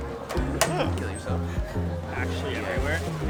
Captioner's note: laughing